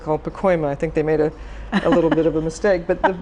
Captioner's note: laughs